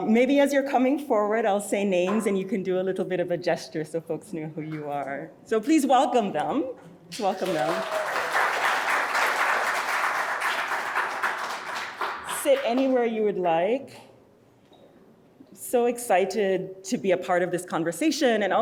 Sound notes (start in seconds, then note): 7.1 audience applauding